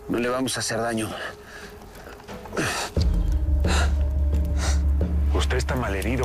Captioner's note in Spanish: Quejidos